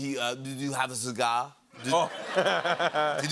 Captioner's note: laughs